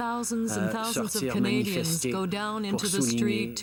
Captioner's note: speaking French